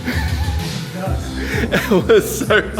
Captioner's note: chuckling